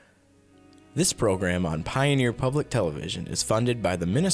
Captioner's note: voiceover